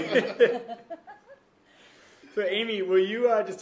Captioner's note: laughter